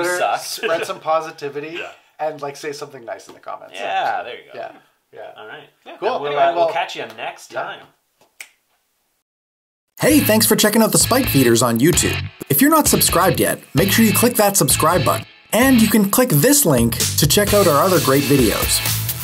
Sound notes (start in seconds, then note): 8.2 voiceover